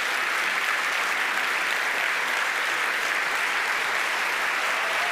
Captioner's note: audience applauding